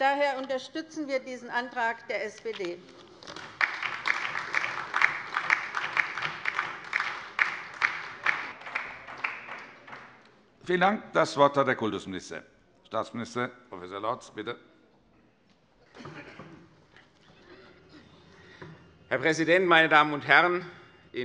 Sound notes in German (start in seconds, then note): 3.0 Beifall bei der LINKEN